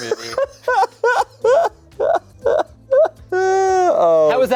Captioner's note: laughs